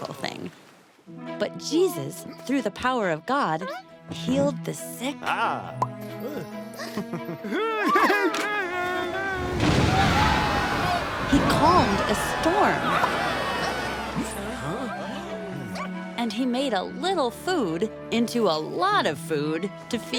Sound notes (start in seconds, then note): 6.7 happy sounds; 9.4 thunder; 10.3 screaming